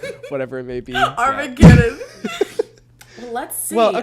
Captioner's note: both laugh